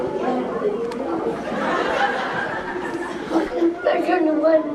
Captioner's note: classroom talking and laughing